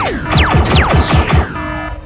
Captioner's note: zap